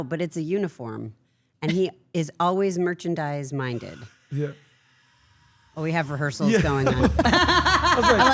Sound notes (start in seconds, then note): 6.4 laugh